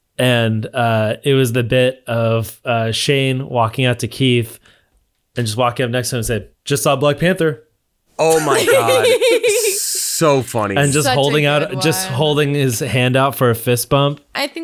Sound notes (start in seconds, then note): 8.2 all laughing